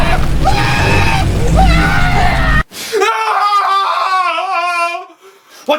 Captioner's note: ghost screaming; Larry screaming; flames crackling